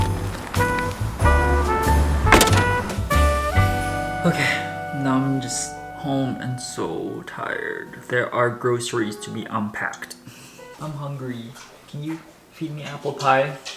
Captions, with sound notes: (car trunk thuds) - Okay, now I'm just home and so tired. There are groceries to be unpacked. I'm hungry. Can you feed me apple pie?